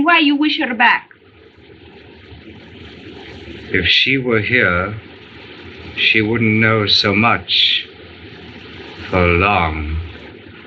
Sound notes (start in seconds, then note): none